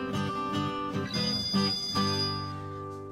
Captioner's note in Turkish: Telefon çalıyor